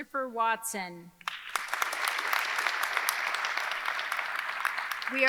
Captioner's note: audience clapping